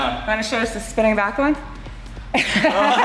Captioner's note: laughs